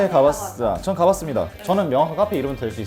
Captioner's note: confident